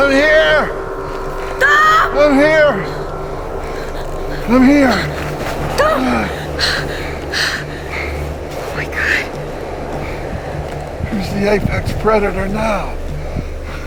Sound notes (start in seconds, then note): 7.1 gasping